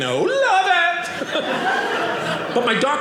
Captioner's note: audience laughing